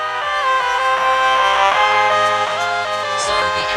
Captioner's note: crowd cheering